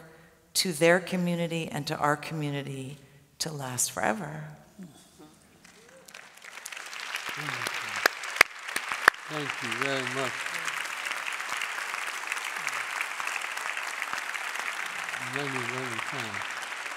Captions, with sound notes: to their community and to our community to last forever. [Applause] -Thank you very much. [Applause] Many, many thanks.